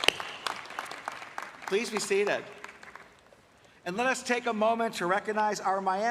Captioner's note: applause